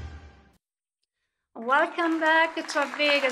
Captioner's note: applause